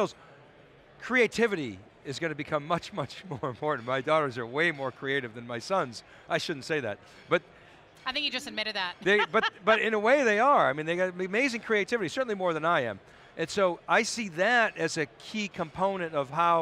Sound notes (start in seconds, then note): 9.0 laughing